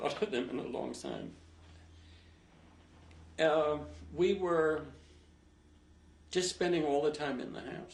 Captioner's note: pauses for 3 seconds